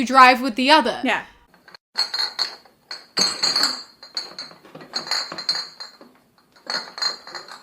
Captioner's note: the sound of bottles clinking in the bag